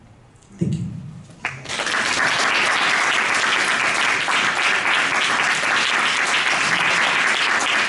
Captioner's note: applause